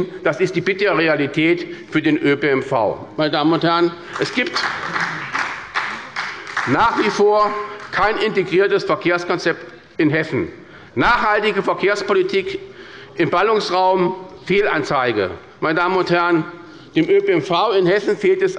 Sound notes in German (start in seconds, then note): 4.1 Beifall bei der SPD